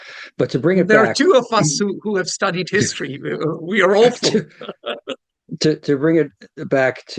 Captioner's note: laughs